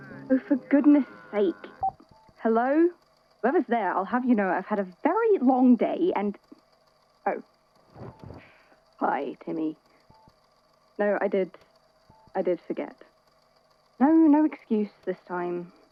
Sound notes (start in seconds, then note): 0.0 ringtone; 1.7 phone beep; 7.9 sighs, rustling